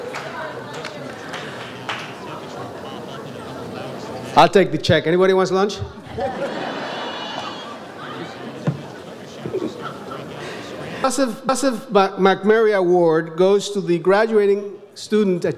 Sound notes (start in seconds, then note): 5.9 audience laughs